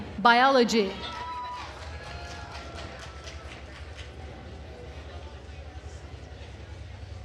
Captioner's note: attendees cheering and applauding